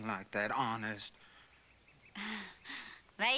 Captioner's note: laughs